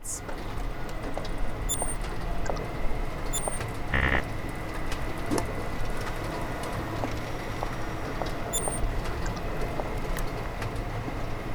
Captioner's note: sound effects